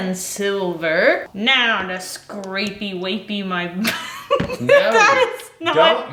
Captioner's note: laughing